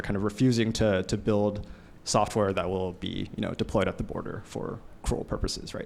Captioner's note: none